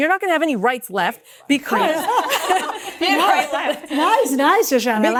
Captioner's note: laugh